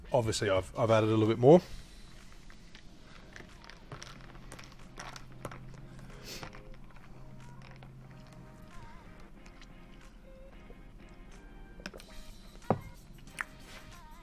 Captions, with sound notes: Obviously, I've added a little bit more. (ice rattling) (upbeat music)